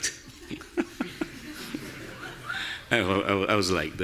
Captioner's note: audience laughing; laughing